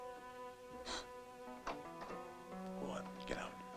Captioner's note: mysterious music; gasps